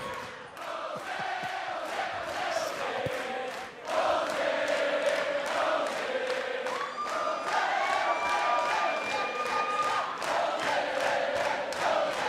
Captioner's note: crowd cheering